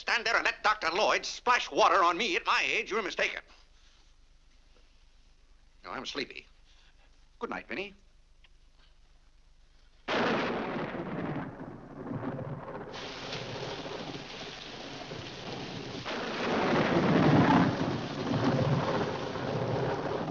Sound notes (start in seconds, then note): 10.0 loud thunder; 12.9 rain falling heavily; 16.0 loud thunder